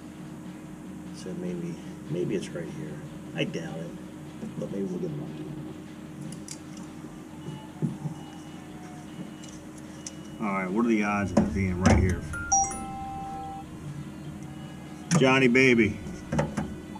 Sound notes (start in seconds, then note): 12.3 phone rings